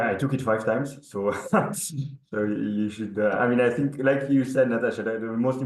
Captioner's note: chuckles